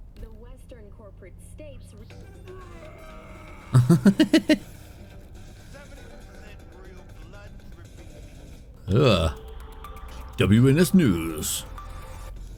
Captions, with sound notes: (laughs) Ugh. WNS News.